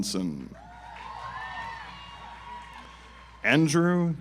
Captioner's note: audience applauds